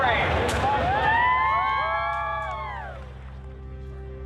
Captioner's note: crowd cheering